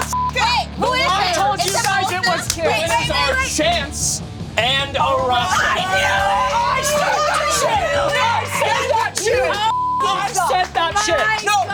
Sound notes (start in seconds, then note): 0.1 beep; 4.9 group shouting; 9.7 beep